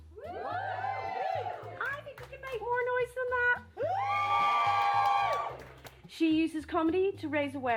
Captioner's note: some whoops